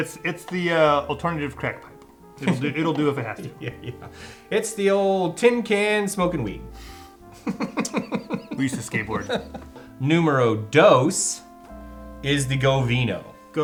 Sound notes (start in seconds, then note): 7.3 laughs